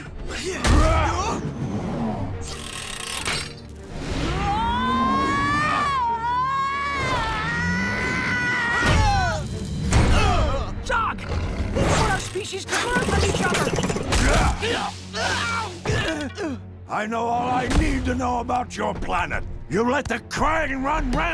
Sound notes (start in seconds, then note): 0.3 grunting; 4.2 screaming; 8.4 grunting; 14.5 grunting